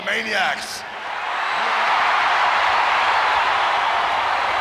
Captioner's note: audience cheering